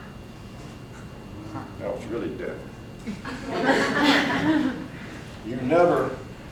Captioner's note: audience laughs again